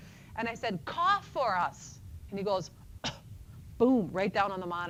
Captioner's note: coughing